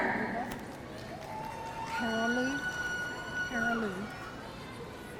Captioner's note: audience cheering